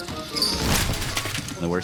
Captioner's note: bike clatters; body thuds